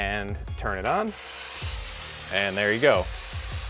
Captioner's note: air hissing